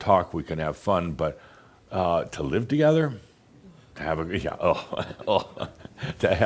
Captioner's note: Adamus chuckles